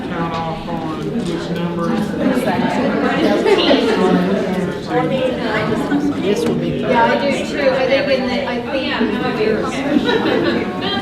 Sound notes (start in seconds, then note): 2.6 participants talking at once